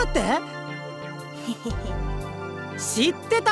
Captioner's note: awkward laugh